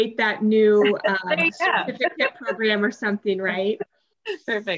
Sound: laughs

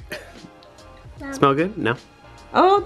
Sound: coughs

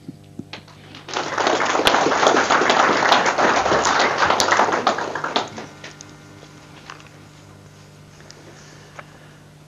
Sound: audience applause

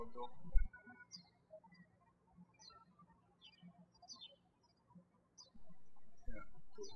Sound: birds chirping

